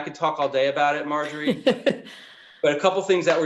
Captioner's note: laughing